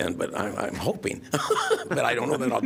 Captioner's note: laughter